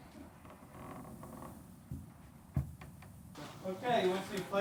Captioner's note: door creaking